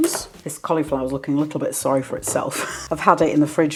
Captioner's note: laugh